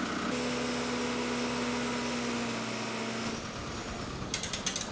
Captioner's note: engine revving